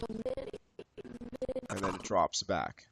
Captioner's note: audio skipping